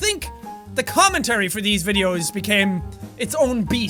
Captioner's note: none